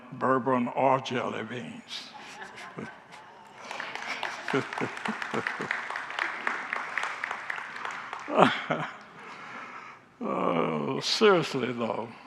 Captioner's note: laughs and congregants applaud